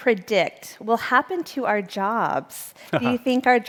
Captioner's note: chuckling